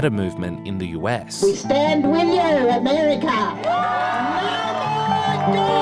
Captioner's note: cheering